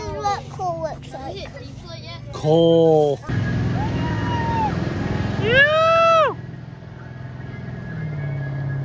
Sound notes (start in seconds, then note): 3.2 boat motor; 5.4 whoops